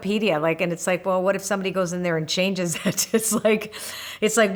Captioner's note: laughs